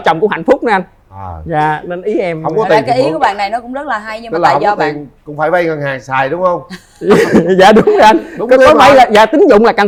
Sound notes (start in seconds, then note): 6.8 laughs